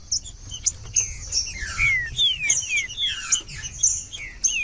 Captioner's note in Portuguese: trinca ferro cantando